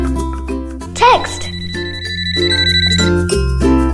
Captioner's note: phone alert ringing